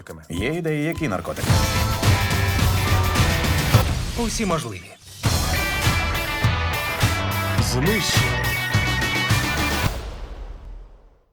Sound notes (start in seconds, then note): 3.6 glass shatters; 9.7 music fades